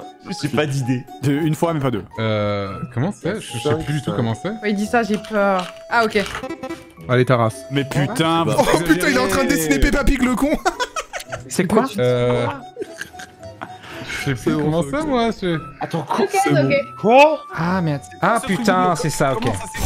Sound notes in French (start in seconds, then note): 4.8 bruits de clavier; 11.2 Rire